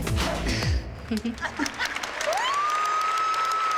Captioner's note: applause and cheering